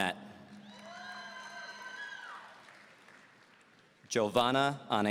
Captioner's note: audience cheering